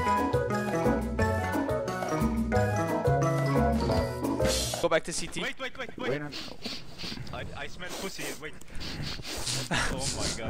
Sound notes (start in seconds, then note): 5.9 sniffz; 8.4 sniffz again